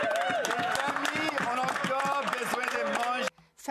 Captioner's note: speaking French